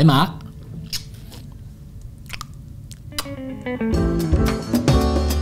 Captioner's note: kisses